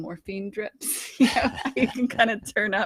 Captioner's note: both laughing